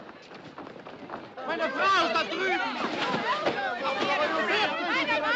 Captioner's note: Gritando em Língua Estrangeira; Gritando, Clamando